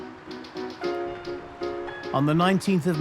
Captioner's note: narrator in English